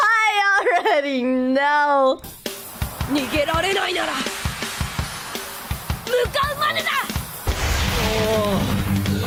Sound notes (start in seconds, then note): 2.2 fast-paced music; 2.5 speaking in foreign language